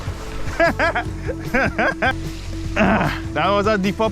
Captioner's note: laughter